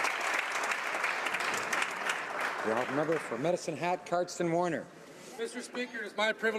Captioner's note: some Applause